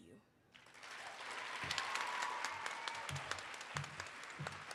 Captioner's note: audience cheering